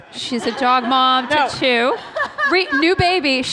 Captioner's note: laughter